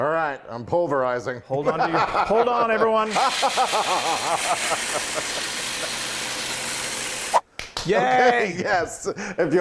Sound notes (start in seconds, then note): 2.0 laughing; 3.1 laughing evilly; 5.2 food processor whirring